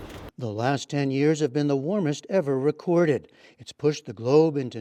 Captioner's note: voice-over